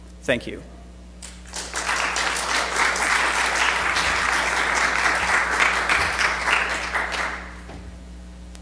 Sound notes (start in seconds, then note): 1.2 audience claps